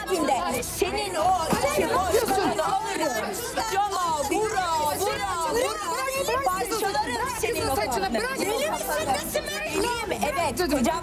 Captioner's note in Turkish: Kavga Sesleri